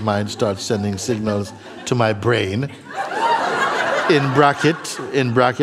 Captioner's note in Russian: смех